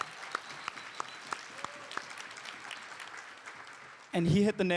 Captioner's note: applause